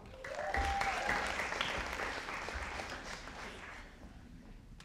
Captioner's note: audience applauding